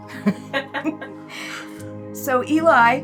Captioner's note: laughter